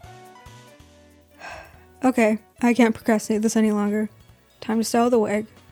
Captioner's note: sigh